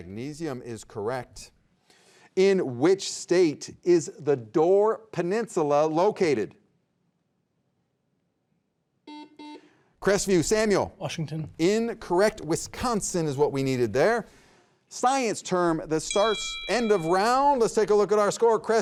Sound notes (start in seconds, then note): 9.0 buzzer beeping; 16.0 bell ringing